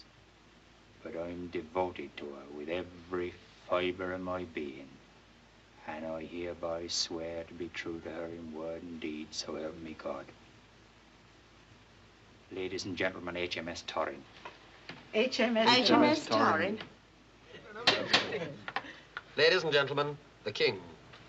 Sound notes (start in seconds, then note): 17.9 tapping on table